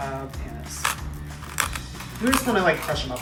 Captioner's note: seeds crunching